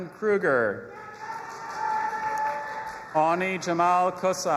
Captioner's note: audience applauding and cheering